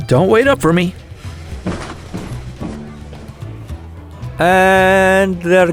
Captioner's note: footsteps up the stairs